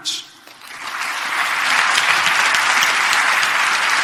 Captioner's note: clapping